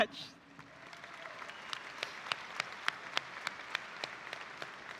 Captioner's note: audience applauding